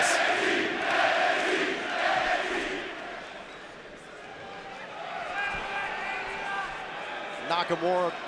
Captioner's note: fans chanting